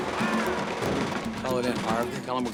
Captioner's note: screaming, automatic gun firing